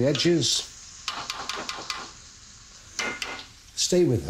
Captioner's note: spoon banging